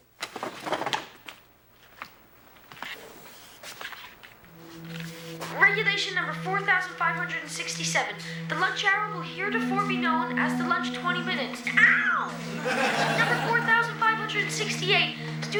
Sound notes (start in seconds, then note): 5.8 Ethan Over Speaker; 11.9 ominous music